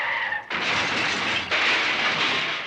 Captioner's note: crashing; glass shattering